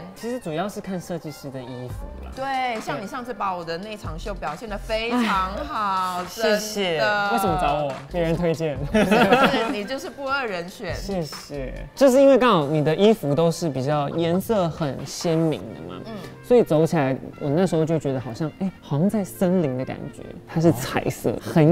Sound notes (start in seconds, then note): 8.9 Laugh